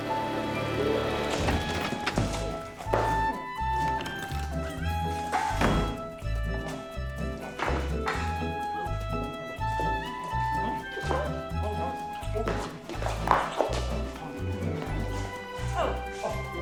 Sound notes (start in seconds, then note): 11.5 both fumbling; 15.5 audrey sighs